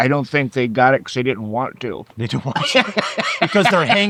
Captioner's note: laughing